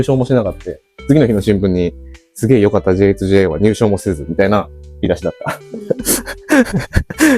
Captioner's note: laughs